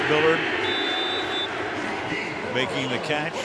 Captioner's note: whistle; pa announcement